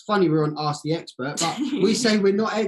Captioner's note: giggles